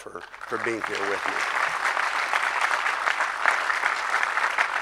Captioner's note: crowd applause